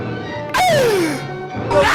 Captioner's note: Sr. Pelo Gasp